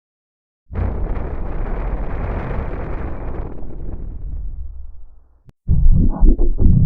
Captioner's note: Supernatural 3D Giga Shadow Windows XP Startup Sound